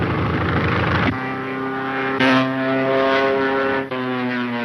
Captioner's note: engine roaring